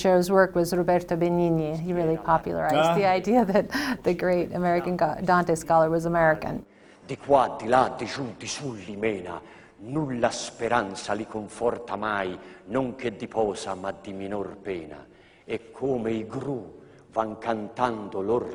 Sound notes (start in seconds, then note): 6.5 in Italian